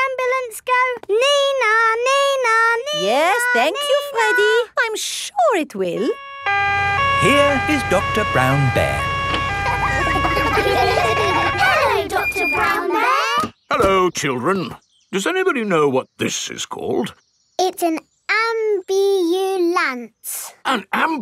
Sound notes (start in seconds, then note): 7.0 siren wailing; 9.4 kids laughing